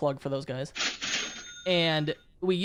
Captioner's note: cash register cha-chings